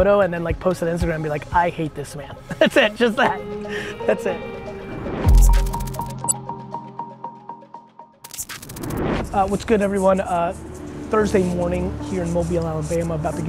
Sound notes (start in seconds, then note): 5.4 graphics whirring; 8.2 screen whooshes